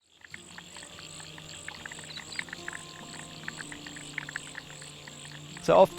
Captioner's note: frogs croaking; soft music